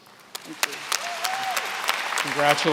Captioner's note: applause